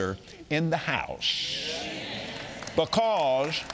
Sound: audience agreeing

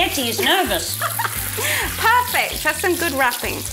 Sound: laughs

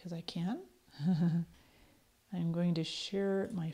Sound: chuckles

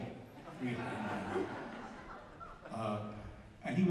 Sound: crowd laughs

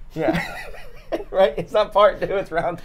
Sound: both laughing

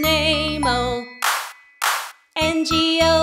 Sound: hands clap

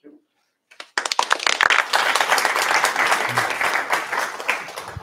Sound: applause

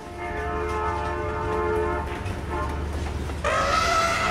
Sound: train whistle blows; elephant trumpets, horse neighs

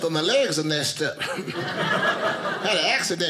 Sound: audience laughing

